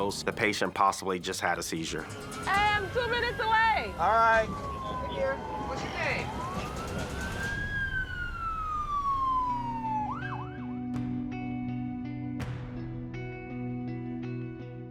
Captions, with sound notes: The patient possibly just had a seizure. Hey, I'm two minutes away. All right. What's your name? [sirens]